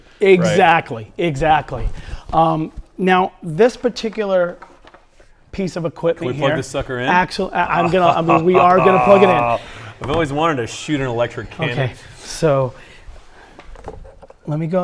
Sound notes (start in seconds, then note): 7.6 laughs